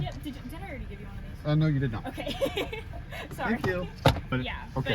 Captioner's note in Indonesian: haha